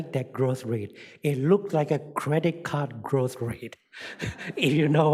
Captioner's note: chuckles